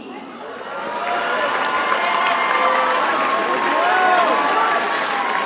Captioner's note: audience cheers and applauds